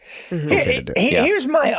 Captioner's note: Charlie stammers